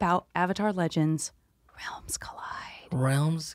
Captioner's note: whispering